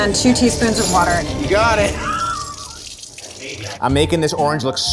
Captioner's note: laughs